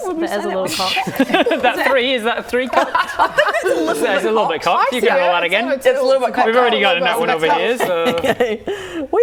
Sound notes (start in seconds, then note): 2.7 laughing